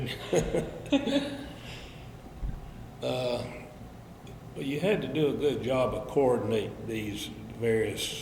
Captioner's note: both laugh